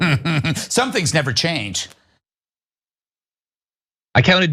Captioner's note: laugh